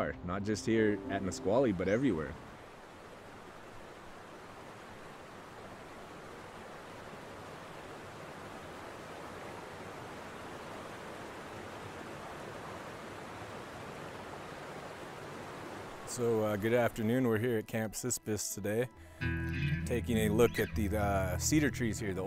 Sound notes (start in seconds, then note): 12.2 water gurgling